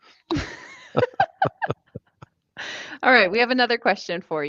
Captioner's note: laughs happily